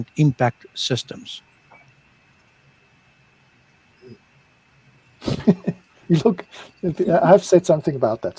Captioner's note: laughter